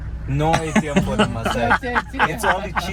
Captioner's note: laughter